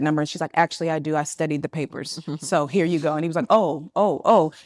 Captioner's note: attendees laughing